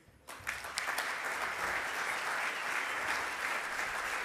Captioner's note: audience applause